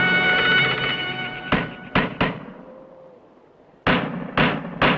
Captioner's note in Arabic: مطرقة ضجيجا